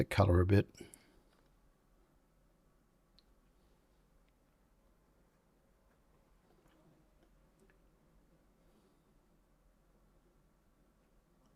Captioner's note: silence